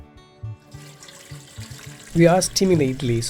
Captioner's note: water pouring